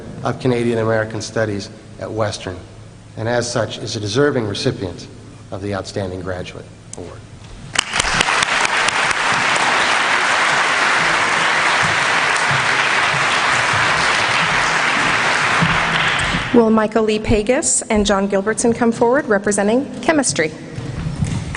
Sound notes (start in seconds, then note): 7.7 applause